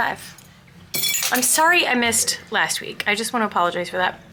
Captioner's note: metal clanking